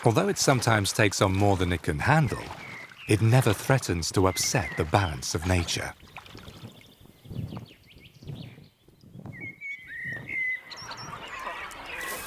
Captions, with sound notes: Although it sometimes takes on more than it can handle, it never threatens to upset the balance of nature. (birds singing)